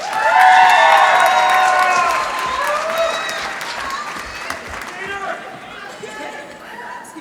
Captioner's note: applause